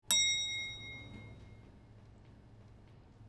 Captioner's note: elevator dings